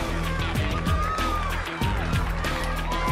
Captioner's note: crowd cheering